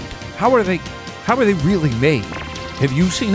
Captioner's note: digital pulsing